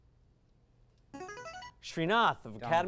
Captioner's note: device sound